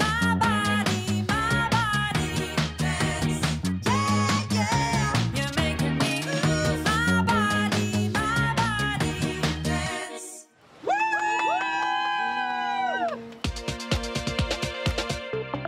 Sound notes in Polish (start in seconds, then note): 10.9 Aplauz